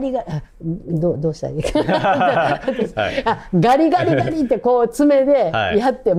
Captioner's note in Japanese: 笑い